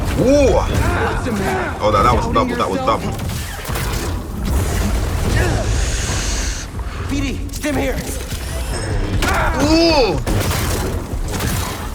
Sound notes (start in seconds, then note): 3.8 lightsabers swinging; 9.0 grunting